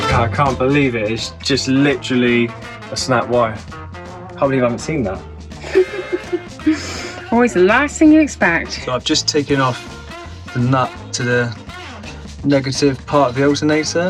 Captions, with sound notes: yeh i can't believe it! it's just literally a snapped wire I can't believe i havn't seen that! [laughing] always the last thing you expect! so i've just taken off the nut to the negative part of the alternator...